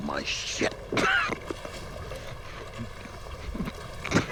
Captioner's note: coughing